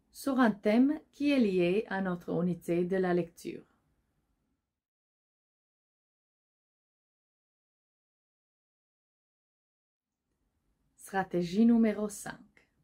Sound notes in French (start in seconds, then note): 4.5 silence